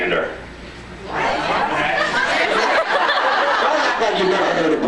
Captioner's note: laughs